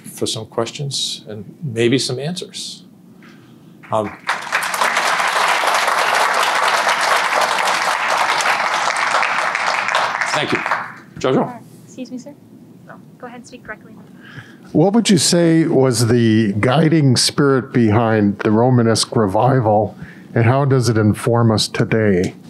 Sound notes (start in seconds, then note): 3.8 audience applause